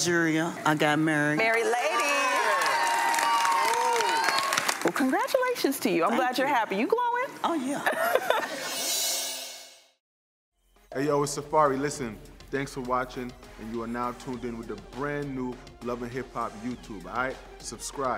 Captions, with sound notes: - Oh. I went to Nigeria. I got married. (crowd cheers and applauds) - Well congratulations to you. I'm glad you're happy. You glowing? - Oh yeah. (laughter)